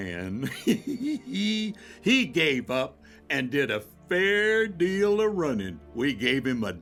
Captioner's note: laughs